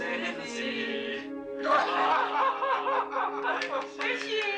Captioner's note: laughter